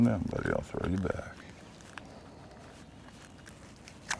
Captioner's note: fish splashing